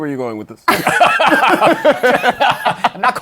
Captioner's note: laughter